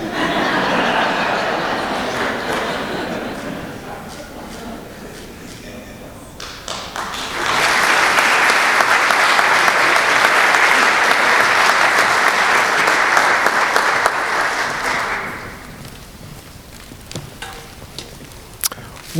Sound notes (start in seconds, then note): 0.0 laughter; 6.4 applause